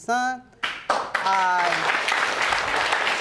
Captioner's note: audience applauding